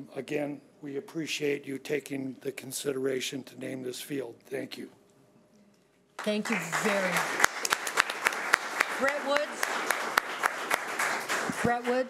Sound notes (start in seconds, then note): 7.9 audience applauding